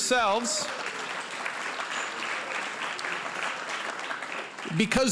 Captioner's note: applause